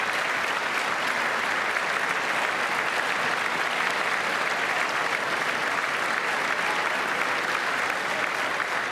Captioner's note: applause